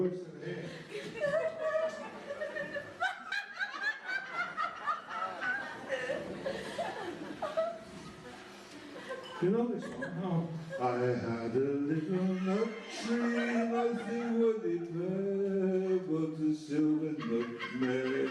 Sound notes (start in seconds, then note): 0.6 laughter